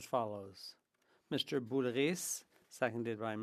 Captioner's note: speaking French